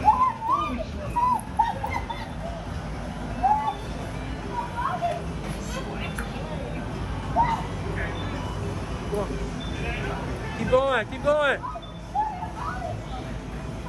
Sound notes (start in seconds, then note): 1.7 laughing